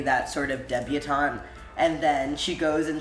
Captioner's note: none